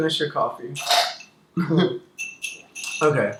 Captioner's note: slurps coffee and laughs